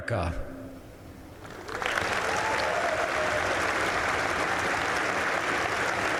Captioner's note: applause